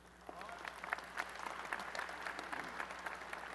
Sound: applause

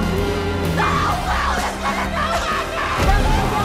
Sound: screaming

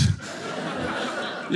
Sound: audience laughing

